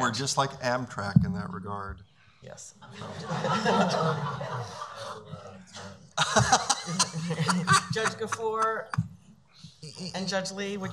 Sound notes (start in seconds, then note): 2.9 laughing; 6.2 laughs